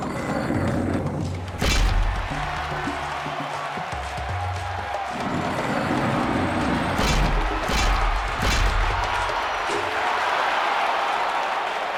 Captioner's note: grinding stone sound effects with growing cheering and applause